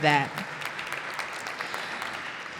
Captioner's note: applause